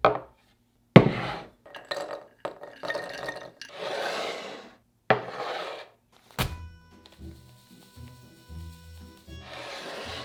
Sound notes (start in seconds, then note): 1.6 cashews dropping